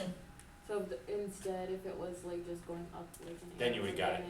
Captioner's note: voiceover